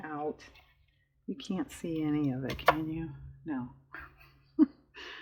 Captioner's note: laughs